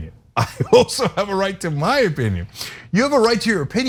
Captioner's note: laugh